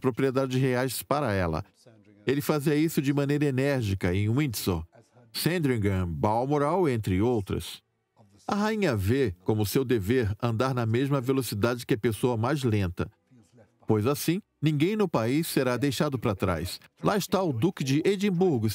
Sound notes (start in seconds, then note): 4.0 voiceover